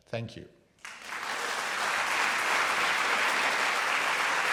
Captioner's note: audience applauds